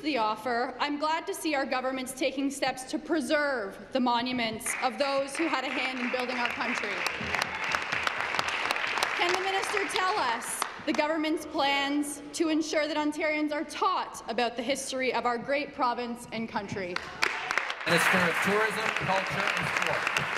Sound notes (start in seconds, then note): 9.8 some Applause